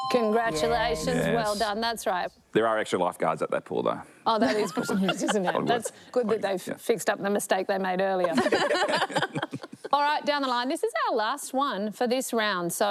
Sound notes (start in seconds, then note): 8.2 laughter